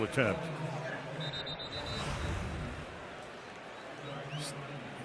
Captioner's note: pa announcement